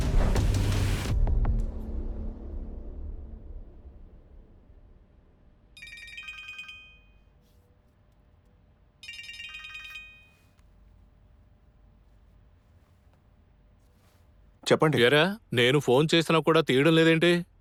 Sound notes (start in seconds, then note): 5.7 phone chimes